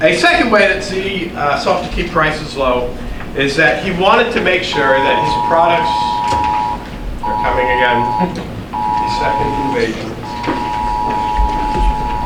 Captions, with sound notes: And a second way that Z sought to keep prices low is that he wanted to make sure that his products-- (siren blaring) They're coming again. (audience laughing) The second invasion.